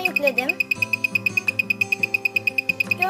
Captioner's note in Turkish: buzzer sesleri